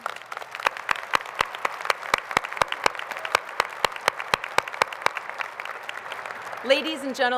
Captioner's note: applause